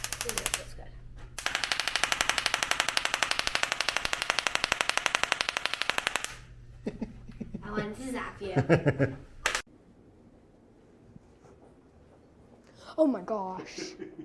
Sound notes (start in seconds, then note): 1.3 crackling noises; 6.8 laughing; 13.6 laughter